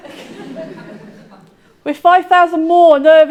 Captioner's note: audience laughing